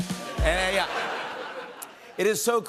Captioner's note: laughter